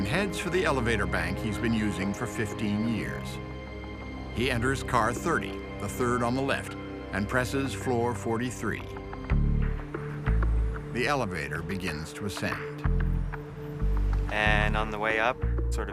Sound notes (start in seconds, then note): none